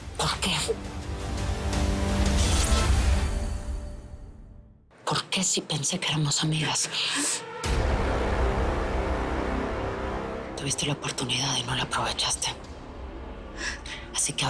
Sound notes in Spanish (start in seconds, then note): 7.4 Sollozos